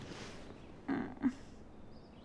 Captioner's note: groan